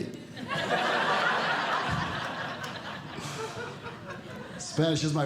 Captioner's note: audience Laughing